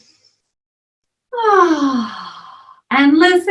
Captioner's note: deep breathing